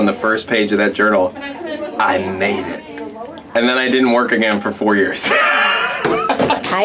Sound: laughing

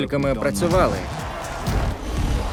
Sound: crowd cheering

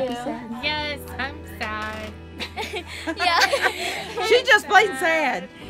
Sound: laughs

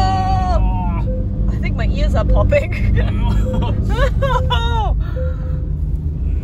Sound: laugh

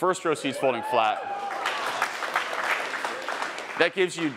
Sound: attendees cheering and applauding

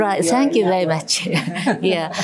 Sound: laughter

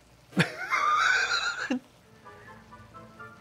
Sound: laughs

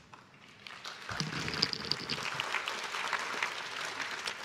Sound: crowd claps

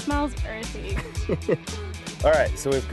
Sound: chuckles

